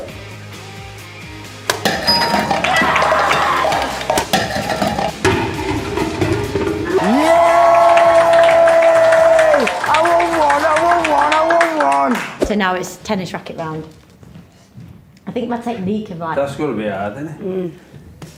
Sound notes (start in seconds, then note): 2.7 screaming; 6.1 clapping and cheering